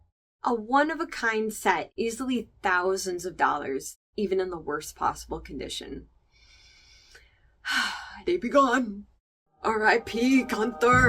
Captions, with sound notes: A one-of-a-kind set. Easily thousands of dollars, even in the worst possible condition. (inhale) (sigh) They be gone. RIP Gunther.